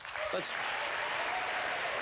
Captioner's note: applause